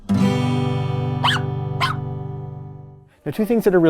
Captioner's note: guitar music; dog barking